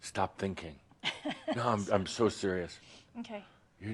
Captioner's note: she chuckles